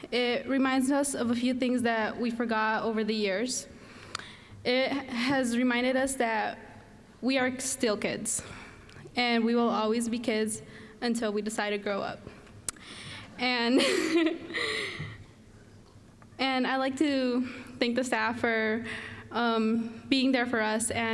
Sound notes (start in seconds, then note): 13.6 laughing; 13.8 audience chuckling